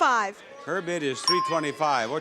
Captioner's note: bell dings